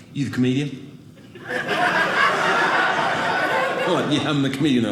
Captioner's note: audience laughing